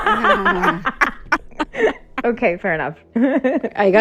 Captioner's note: laughter